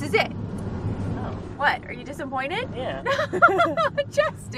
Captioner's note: both Laugh